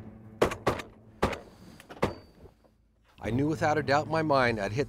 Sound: gunshots

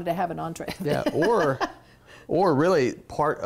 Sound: laughs

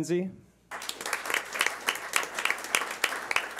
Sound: clapping

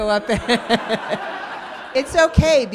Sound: audience laughing

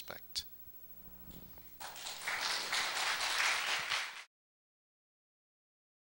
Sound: applause

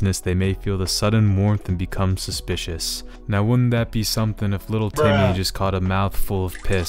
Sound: bruh sound effect

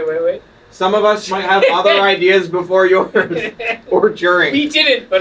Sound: laughs

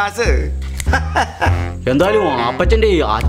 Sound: laughs

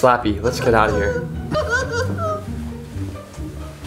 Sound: laughing

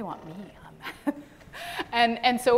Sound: chuckles

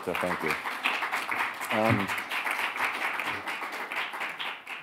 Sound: crowd clapping

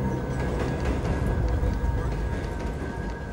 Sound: passengers chattering

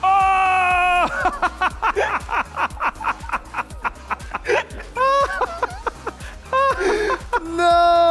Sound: laughing

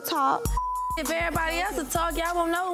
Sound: beeps

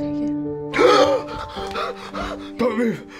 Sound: Jason gasping

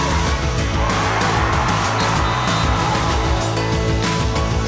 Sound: cheering

